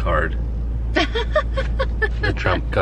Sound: laughs

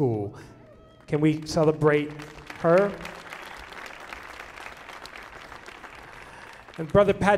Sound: audience applauding

